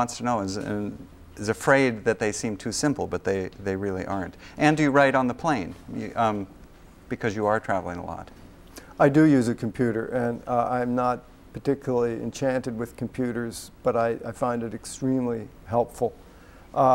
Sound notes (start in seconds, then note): none